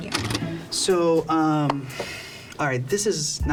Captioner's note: videotape plays; exhaling